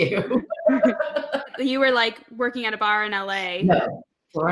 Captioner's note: laughs